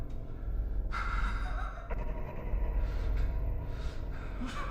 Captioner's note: laughs